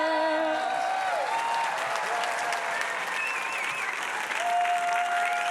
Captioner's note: audience applauding and cheering